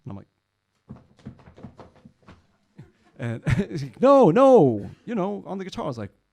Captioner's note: tapping feet